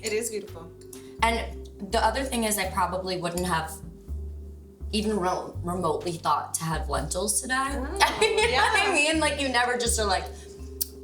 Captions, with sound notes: - It is beautiful. - And the other thing is I probably wouldn't have even remotely thought to have lentils today. (laughs) You know what I mean? You never just are like,